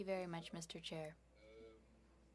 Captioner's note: speaking French